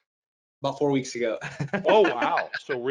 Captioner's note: laughing